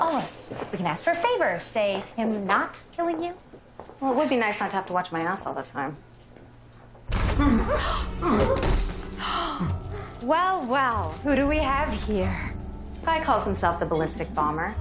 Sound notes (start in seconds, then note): 9.1 gasp